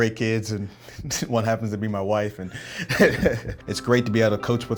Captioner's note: laughing